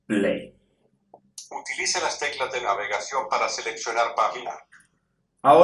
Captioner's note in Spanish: voz del dispositivo